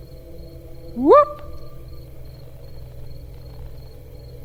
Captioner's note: hoots